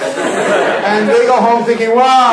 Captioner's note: laughing